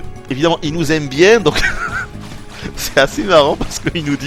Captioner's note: giggles